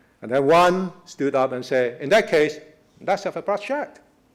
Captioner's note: voice is muffled